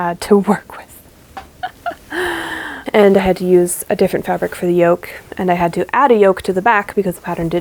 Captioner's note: laughs